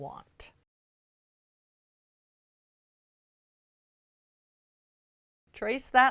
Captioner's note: no Sound Present